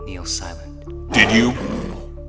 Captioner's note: snarls